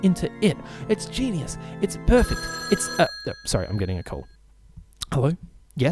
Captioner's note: phone rings